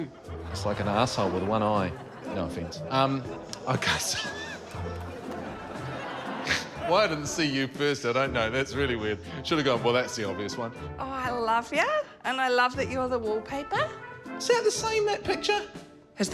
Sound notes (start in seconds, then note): 3.6 laughs; 6.4 snorts